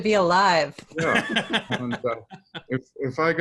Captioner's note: laughs